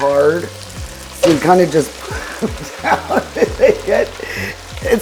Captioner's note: laughing